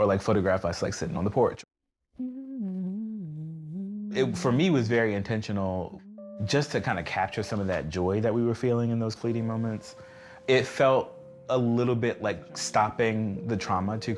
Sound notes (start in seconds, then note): 2.1 humming